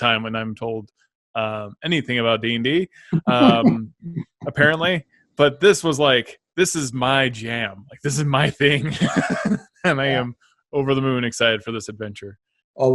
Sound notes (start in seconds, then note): 1.4 laughs; 7.9 both laughs